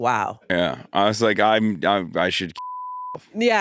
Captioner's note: beep